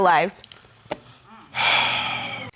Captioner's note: sighs